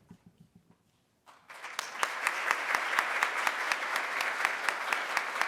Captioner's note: audience applauds